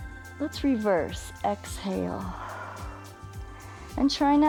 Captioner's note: inhales; exhales